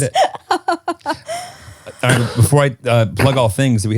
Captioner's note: laughing